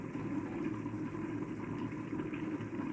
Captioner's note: bubbling pot